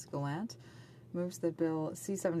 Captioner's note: speaking French